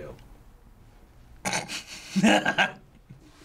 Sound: snorting and laughing

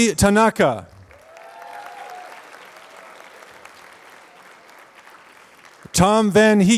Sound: applause

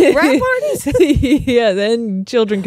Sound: laughs

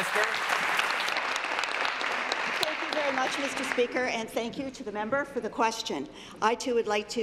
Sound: applause

